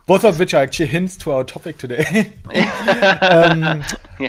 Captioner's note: chuckles; laughs